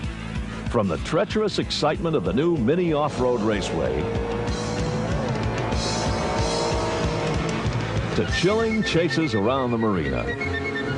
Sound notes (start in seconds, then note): 0.0 upbeat music; 3.9 mini cars revving; 8.8 cartoonish music